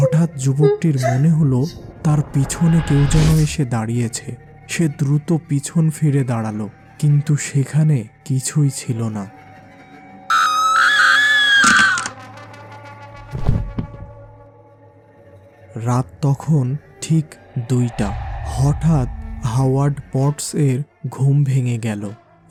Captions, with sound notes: Suddenly the young man felt that someone was standing behind him! He stood back quickly. But there was nothing! [female scream] It was exactly 2 o'clock in the night. Suddenly Howard Pods woke up.